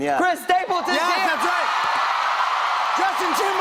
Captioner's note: cheers and applause